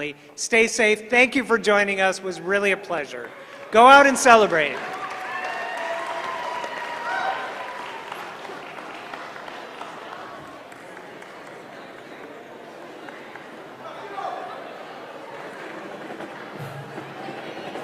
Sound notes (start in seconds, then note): 4.8 applause